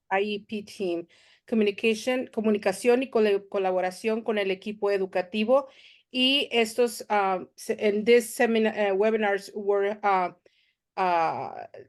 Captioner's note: Spanish